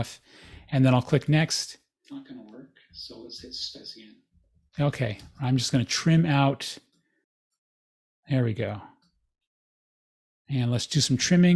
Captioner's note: recording playing